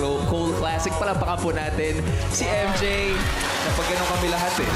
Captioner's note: audience applauding